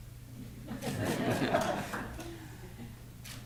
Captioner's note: laughter